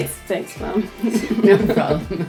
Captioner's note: laughs